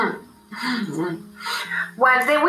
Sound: slight chuckle

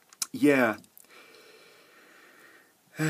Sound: sigh

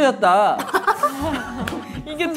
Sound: laughs

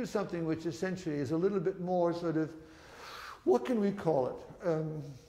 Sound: sighs

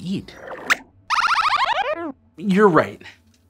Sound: squeaks squeaks

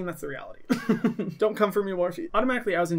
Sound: laughs

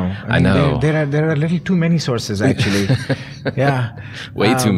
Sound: chuckling

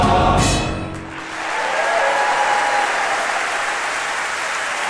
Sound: applause and cheering

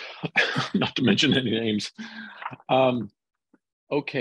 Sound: chuckles

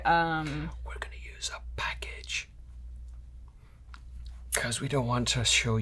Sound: whispering

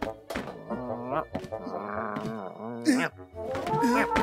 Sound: cat growling

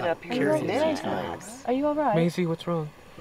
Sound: all chattering

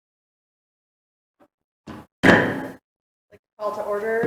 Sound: gavel bangs

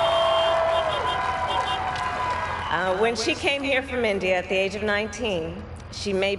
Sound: crowd applauds

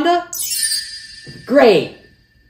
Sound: Wanda chimes

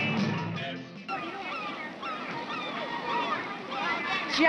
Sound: seagulls crying

